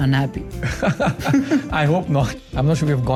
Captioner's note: both chuckling